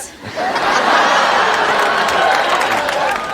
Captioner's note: applause